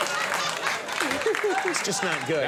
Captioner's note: giggles